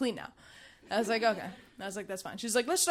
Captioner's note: audience chuckling